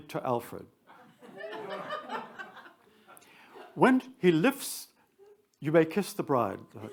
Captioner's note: attendees laugh